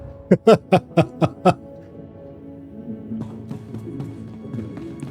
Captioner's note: laughter